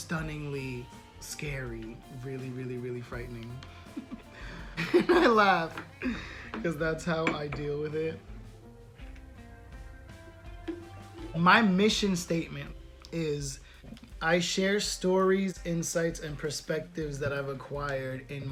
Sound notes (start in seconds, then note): 3.8 giggle